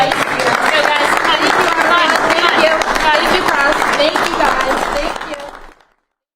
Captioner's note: applause